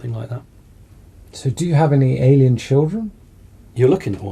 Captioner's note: voiceover